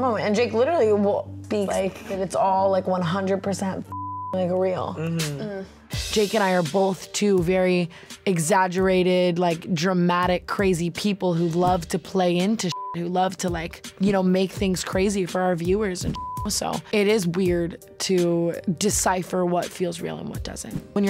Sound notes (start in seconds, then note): 3.8 beep; 12.7 beep; 16.1 beep